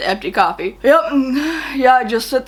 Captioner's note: sighs